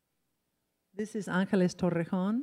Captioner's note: in foreign language